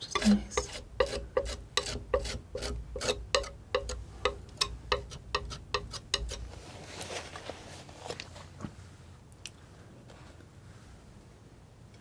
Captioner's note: tapping